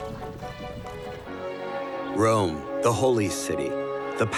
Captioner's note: church bells ring